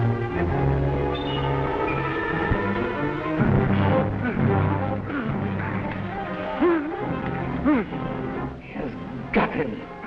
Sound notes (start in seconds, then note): 4.2 groaning